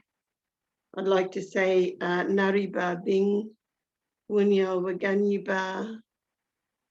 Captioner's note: speaking foreign language